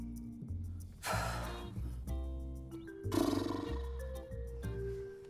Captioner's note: sighing